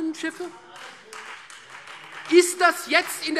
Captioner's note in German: Beifall Freie Demokraten